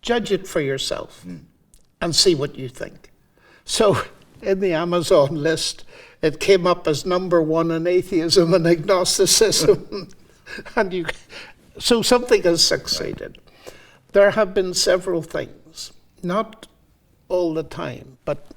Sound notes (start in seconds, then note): 10.4 both laughing